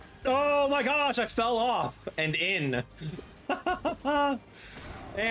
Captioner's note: laughing